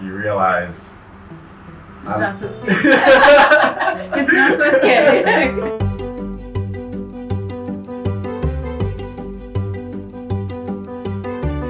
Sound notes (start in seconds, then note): 4.3 cheerful, upbeat modern classical music begins; 5.2 both laugh; 7.6 cheerful, upbeat modern classical music begins